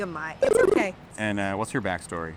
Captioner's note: 8-bit beeping